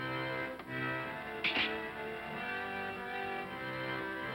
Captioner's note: razor clatters down